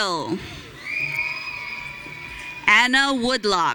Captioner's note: audience cheering